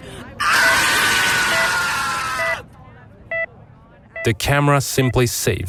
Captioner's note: beeping